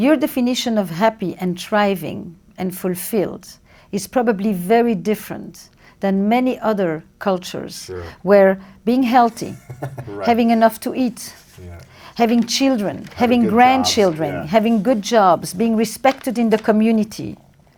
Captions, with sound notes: - Your definition of happy and thriving and fulfilled is probably very different than many other cultures. - Sure. - Where being healthy-- - Right. (chuckles) - Having enough to eat, having children, having grandchildren, having good jobs, being respected in the community--